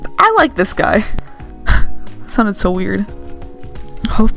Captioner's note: exhale